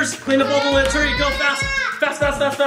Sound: screams

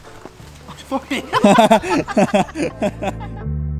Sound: laughs

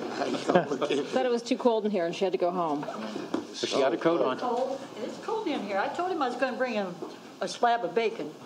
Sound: laughter

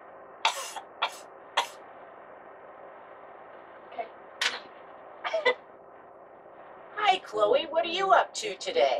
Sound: cough, Cough

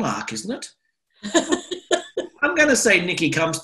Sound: laughter

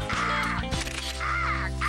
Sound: cawing; camera Click

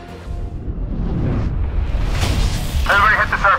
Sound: upbeat music; swoosh sound; voice over bullhorn

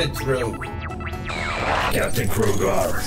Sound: screen buzzes

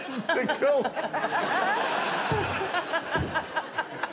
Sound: laughs

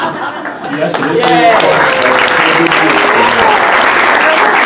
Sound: laughter; applause

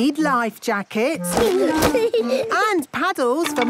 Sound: giggling

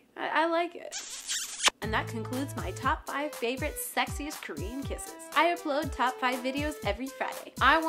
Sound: smooch

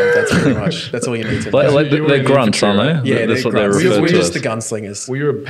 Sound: laughing

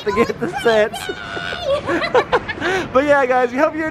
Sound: both laughing

